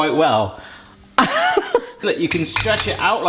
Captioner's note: laughing